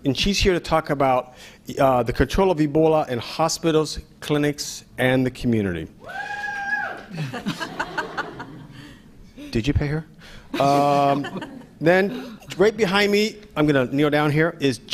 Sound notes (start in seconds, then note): 6.0 cheering